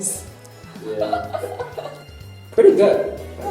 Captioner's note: laughter